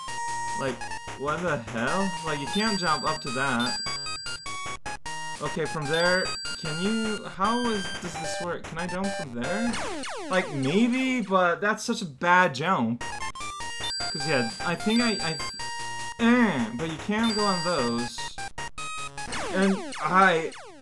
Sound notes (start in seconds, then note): 16.0 jumping sound